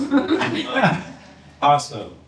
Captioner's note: laughter